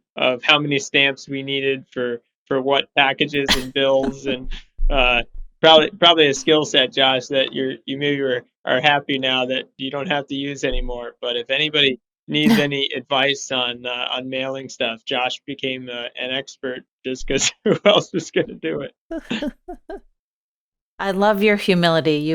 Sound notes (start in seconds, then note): 19.1 laughs